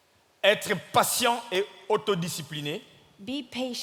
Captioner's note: speaking in French